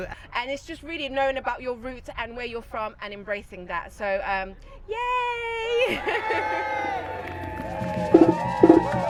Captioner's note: crowd cheers